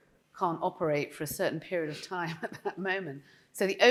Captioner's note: chuckling